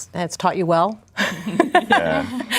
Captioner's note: laughing